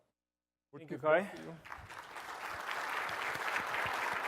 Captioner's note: applause